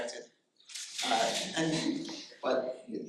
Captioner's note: audience laughing